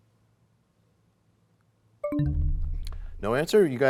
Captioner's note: bell chimes, time expires